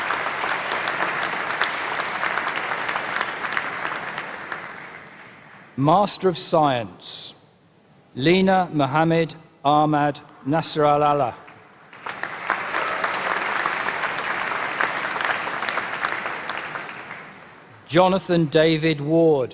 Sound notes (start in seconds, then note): 3.3 applause